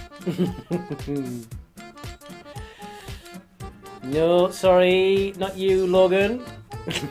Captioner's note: laughs